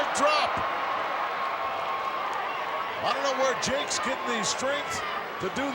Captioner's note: applause